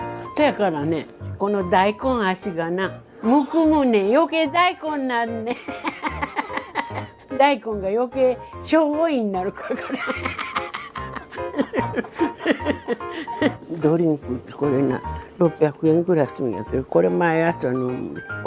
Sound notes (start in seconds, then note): 9.5 laughs